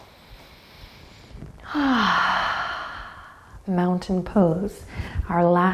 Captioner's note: sighs